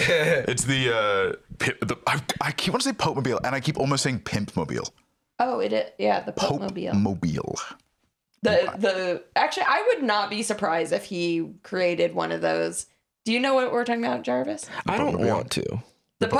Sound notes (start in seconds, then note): 6.9 enunciating